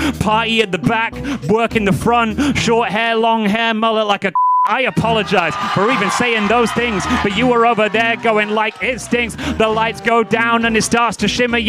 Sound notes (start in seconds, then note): 4.3 beeping